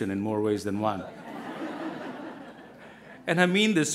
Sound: crowd laughing

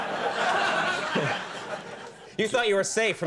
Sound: audience laughing

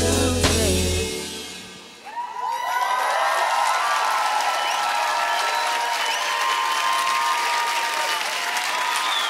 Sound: applause

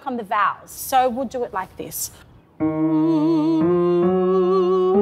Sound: long melodic tone

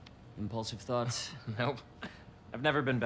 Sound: laughing

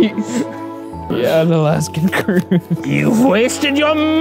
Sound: laughing

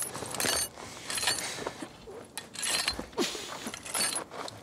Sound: claking continues

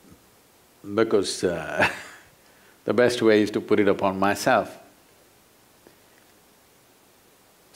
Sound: laughs

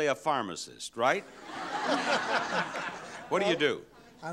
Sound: audience laughs

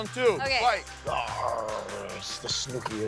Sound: growls

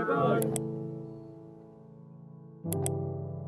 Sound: mouse clicking; tender music continues

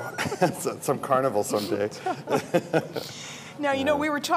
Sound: laughs

